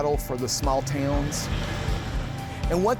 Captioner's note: truck whooshes